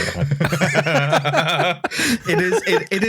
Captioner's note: laughter